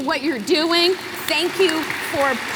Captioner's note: applause